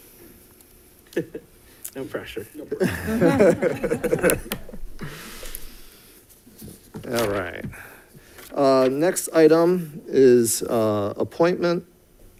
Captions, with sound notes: - No pressure. (board members laughing) - All right, next item is appointment of the superintendent